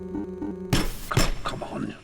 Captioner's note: electronic beeping; banging